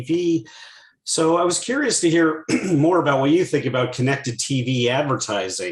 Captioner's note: cough